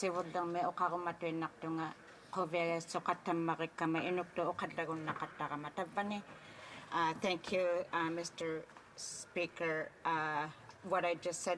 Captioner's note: speaking Indigenous Language